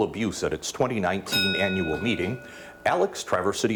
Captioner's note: bell dings